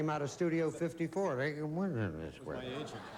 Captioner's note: slurring words